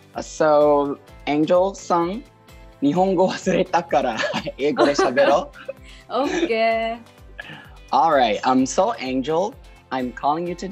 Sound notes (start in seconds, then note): 3.1 in Japanese